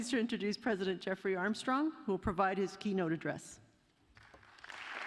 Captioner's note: applause